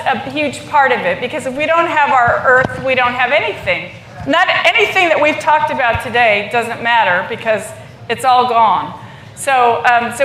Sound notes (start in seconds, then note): none